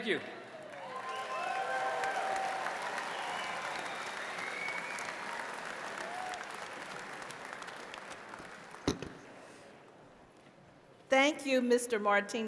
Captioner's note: cheers and applause